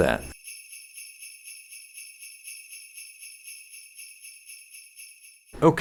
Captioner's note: jingle bells jingling in background